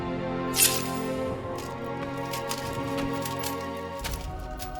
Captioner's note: sword scraping